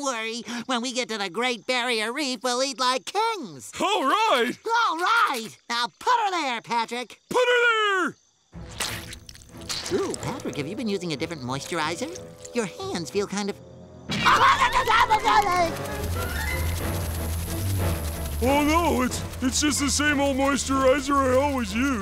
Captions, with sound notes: When we get to the Great Barrier Reef, we'll eat like kings! - All right! - All right! Now put 'er there, Patrick! Put 'er there! Ooh, Patrick, have you been using a different moisturizer? Your hands feel kind of... [screaming] [buzzing] Oh, no, it's just the same old moisturizer I always use.